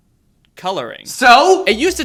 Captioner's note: voiceover